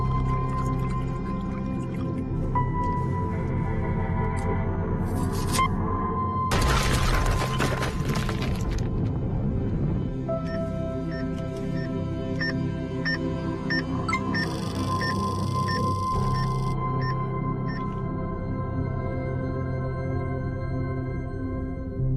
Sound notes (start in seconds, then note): 0.3 liquid bubbling; 8.5 thud; 14.0 EKG machine beeping; 14.1 electronic chime; 17.6 EKG machine beeping